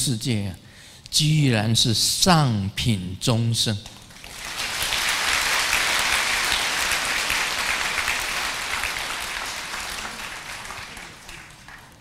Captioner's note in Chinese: 眾鼓掌